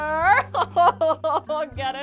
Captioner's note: crying